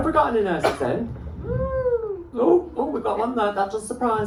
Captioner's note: one person cheers